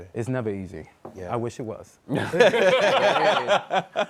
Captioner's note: laughter